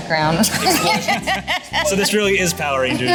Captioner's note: laughter